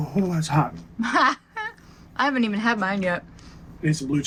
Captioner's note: chuckling